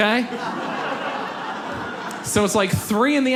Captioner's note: audience laughs